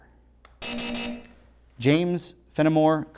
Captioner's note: buzzer